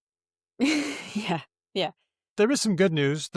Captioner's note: chuckles